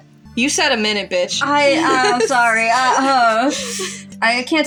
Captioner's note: laugh